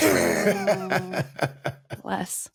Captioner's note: laughing